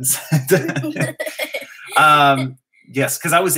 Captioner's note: laughter